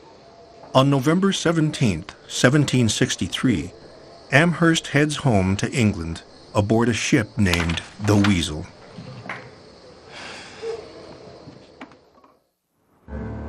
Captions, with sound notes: On November 17th, 1763, Amherst heads home to England aboard a ship named the Weasel. (Amherst sighs)